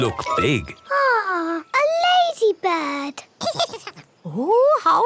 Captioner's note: giggles